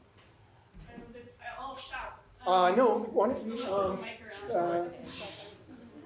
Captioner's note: audience faintly speaking